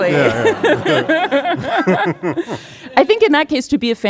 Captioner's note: audience laughing